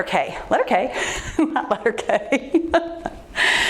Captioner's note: laughs